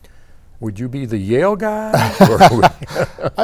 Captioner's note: both laughing